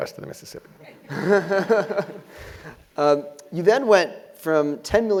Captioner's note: laugh